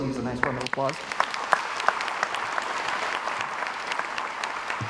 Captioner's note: crowd applauds